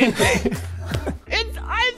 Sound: laughing

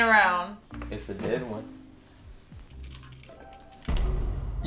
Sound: jingling

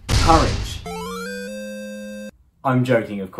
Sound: item get chime

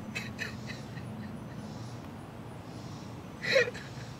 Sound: crying

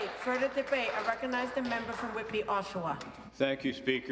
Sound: some Applause

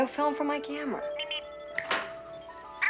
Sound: Steve Trevor snaps his Fingers

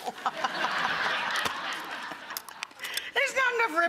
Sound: laughing

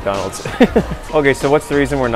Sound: laughs

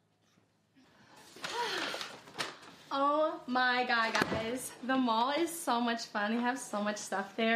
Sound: sighs

